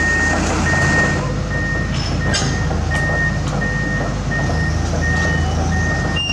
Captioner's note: hydraulic roar